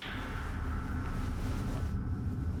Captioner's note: sound of bicycle